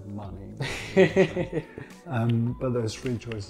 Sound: laughs

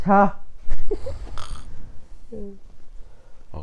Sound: snoring

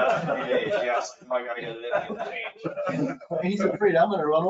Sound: laughing

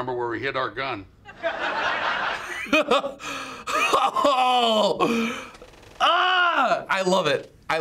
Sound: studio audience laughs; laughs

